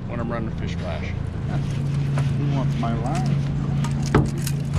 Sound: boat engine running

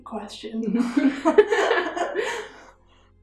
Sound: laughter

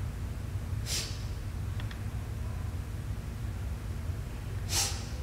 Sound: Ja'Nelle sniffing

